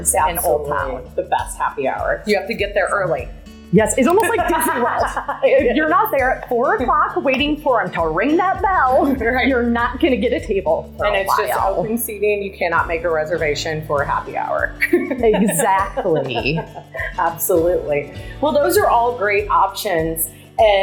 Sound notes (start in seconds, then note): 4.2 laughter; 14.8 laughter